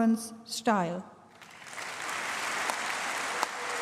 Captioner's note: applause